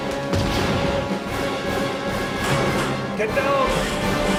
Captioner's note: upbeat music; gun firing